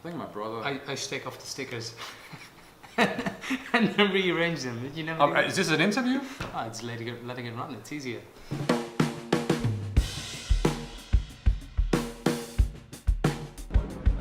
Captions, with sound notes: Think my brother-- - I used to take off the stickers, (laughing) and then rearrange them, did you never do that? - Is this an interview? - Oh just letting it run, it's easier. (upbeat music)